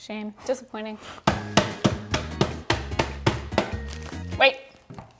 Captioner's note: hammer tapping; upbeat music